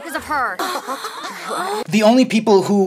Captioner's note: giggles